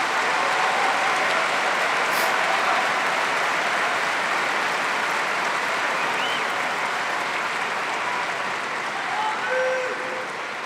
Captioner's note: applause